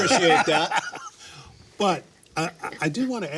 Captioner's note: laughing